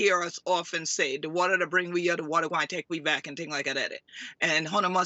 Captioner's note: speaks in foreign language